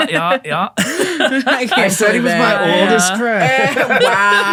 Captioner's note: all laughing